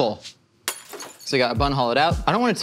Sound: glass shatters

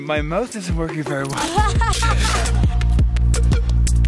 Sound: laughing

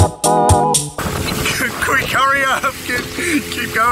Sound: laughs

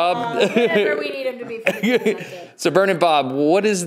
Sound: laughs

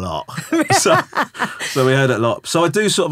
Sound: laughing

